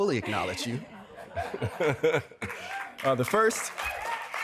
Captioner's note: cheering and applause